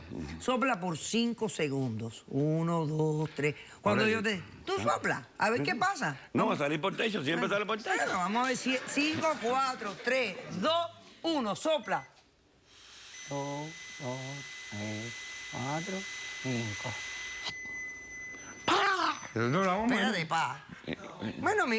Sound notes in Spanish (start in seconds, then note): 8.0 Risas; 11.8 Bip; 12.7 Sonido al soplar; 15.4 Bip